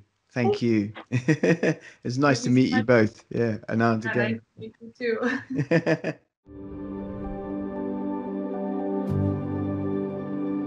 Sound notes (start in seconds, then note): 0.4 laughing; 5.3 chuckling